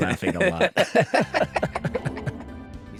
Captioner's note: laughter